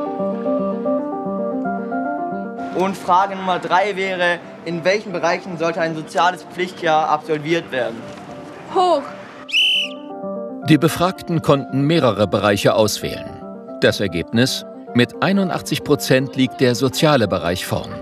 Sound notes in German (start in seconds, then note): 0.0 Dynamische Musik; 9.4 Lautes Pfeifen